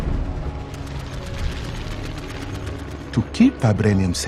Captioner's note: bombs exploding; planes roaring